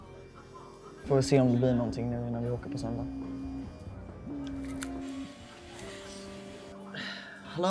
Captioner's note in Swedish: Noels telefon ringer